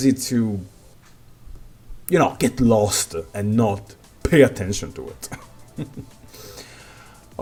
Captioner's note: heh hmhm